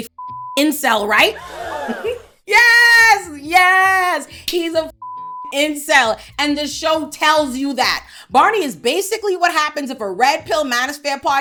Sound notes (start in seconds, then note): 0.0 beep; 1.3 audience gasps; 4.9 beep